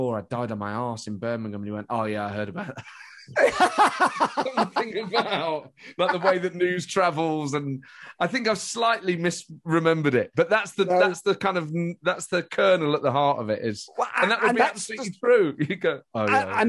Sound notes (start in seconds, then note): 3.5 laughing